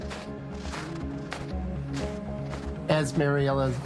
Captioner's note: footsteps crunching